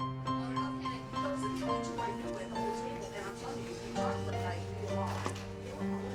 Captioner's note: crowd at diner chatting